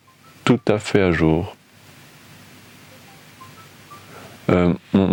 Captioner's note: phone ringing